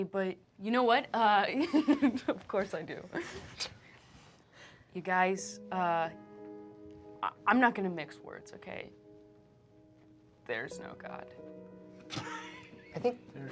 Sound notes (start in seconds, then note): 1.3 laughs; 5.8 tender piano music; 12.1 laughter